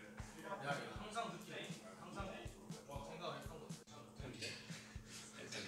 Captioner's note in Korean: 떠드는 소리